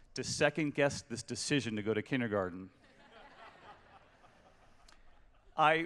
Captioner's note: laughter